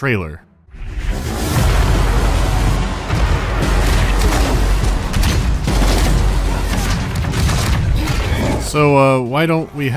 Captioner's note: excited trailer noises